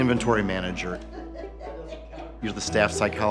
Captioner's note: laughter